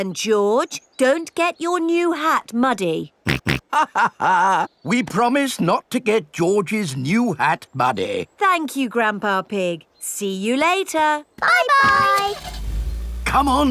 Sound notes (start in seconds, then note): 3.3 chuckles; 3.5 snorts